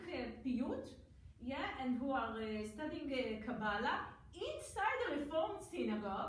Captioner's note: foreign language; foreign language